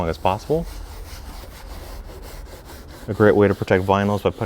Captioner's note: brush scrubbing